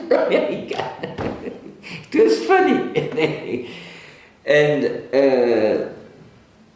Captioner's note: laughs